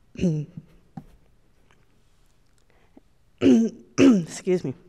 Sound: clears throat

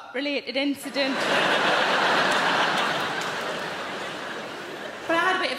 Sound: audience laughing

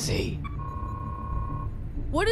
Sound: alarm klaxon

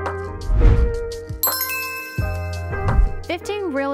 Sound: bells chiming

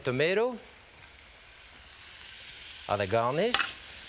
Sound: sizzling

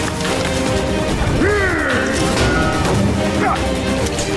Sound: grunting

